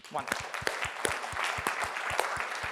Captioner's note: applause